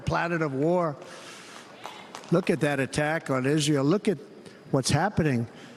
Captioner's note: applause